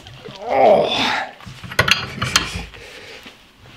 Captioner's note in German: stöhnt